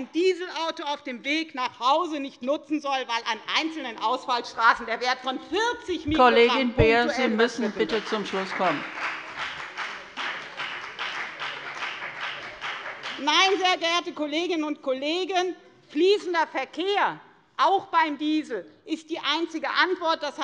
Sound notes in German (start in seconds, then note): 7.7 Beifall bei der FDP